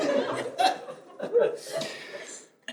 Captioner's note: audience laughs